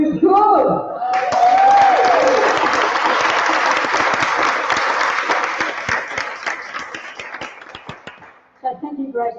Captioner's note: applause